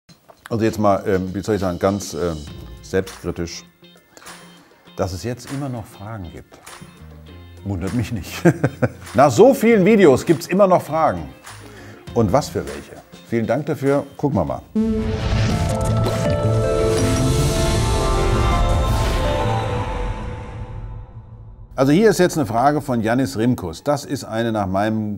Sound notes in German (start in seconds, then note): 8.4 lacht